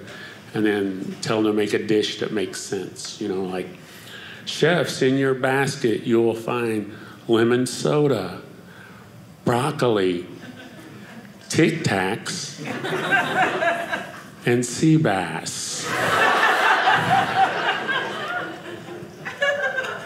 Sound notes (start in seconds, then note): 15.7 audience laughing